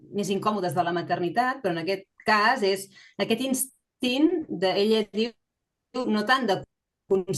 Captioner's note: continues speaking in Catalan